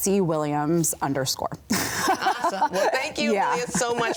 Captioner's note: both laugh